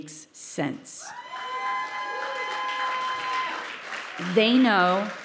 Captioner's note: audience cheering